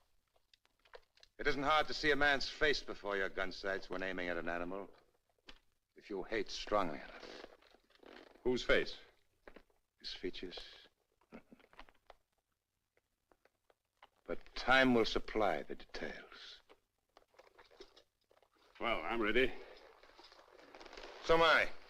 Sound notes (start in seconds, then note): 10.8 chuckles